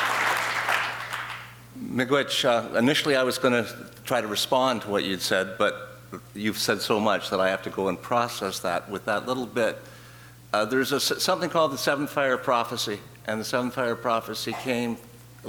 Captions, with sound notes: (speaking in foreign language) - Initially I was gonna try to respond to what you had said but you've said so much that I have to go and process that with that little bit. There's something called the Seven Fire Prophecy and the Seven Fire Prophecy came